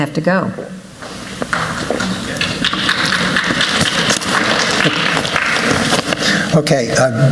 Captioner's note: applause